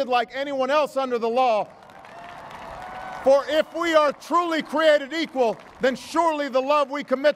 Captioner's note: applause